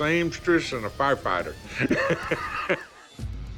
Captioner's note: chuckling